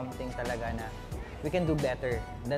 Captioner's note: speaking in foreign language